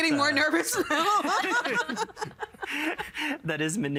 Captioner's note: all laughing